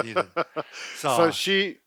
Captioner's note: laughs